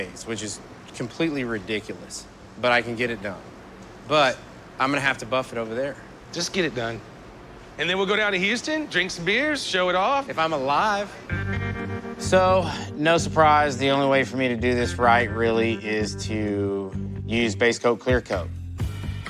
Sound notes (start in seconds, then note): none